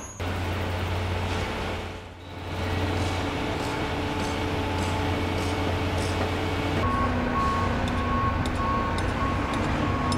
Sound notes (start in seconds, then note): 3.5 concrete mixer whirs